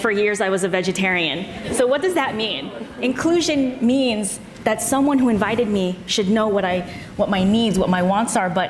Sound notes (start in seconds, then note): 1.6 audience laughs